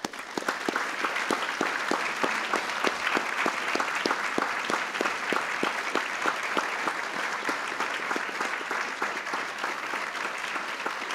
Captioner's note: applause